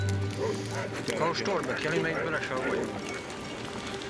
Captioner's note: men chatting